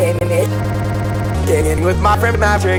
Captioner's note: stutter loop